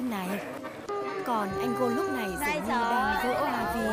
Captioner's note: the big brother is crying